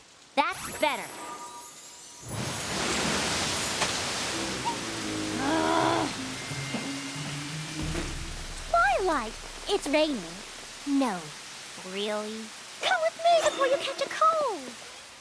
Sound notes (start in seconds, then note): 4.5 groans